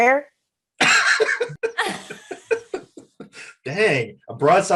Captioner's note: Desi and Eric laughing